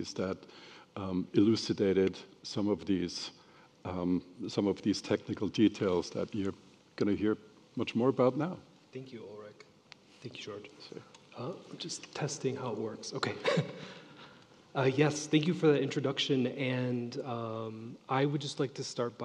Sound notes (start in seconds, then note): 11.0 speaking faintly; 13.4 laughs